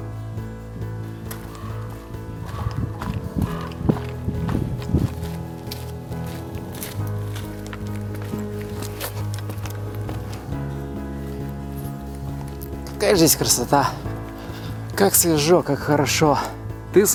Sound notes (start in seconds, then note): 1.2 cries of birds